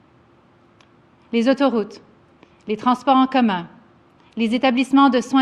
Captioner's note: speaks French